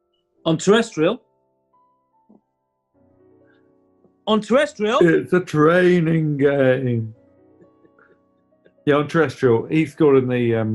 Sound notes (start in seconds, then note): 5.9 dopey voice